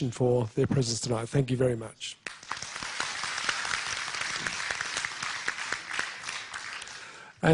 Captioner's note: applause